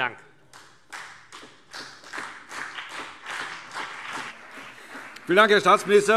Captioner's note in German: Beifall CDU und BÜNDNIS 90/DIE GRÜNEN